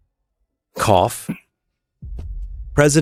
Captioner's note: cough